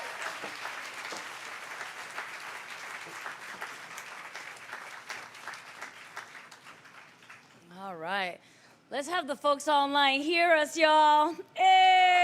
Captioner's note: applause